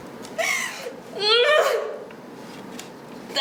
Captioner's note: grunting